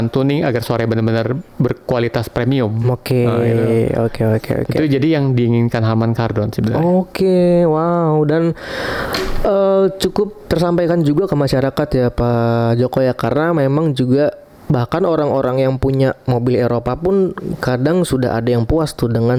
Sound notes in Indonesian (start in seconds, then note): 8.5 terkesiap